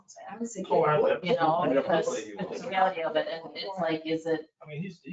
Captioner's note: people chattering